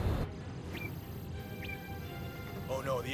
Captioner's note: computer beeps